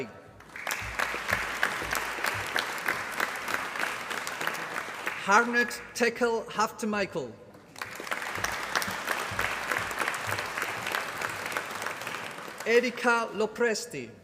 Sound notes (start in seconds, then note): 0.4 applause; 7.6 applause